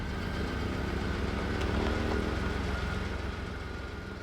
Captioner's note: car rumbling